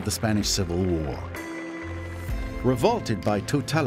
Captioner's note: applause